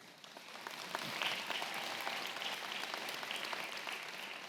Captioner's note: audience clapping